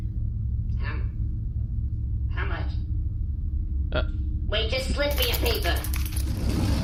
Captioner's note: quietly